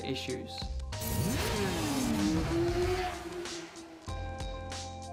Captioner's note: engines revving